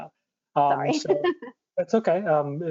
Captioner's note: laughs loudly